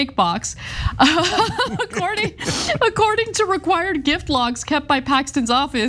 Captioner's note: laugh